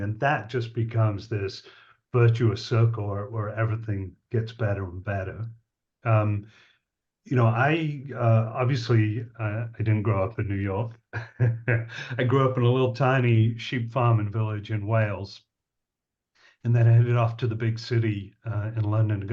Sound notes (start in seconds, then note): 11.1 laughs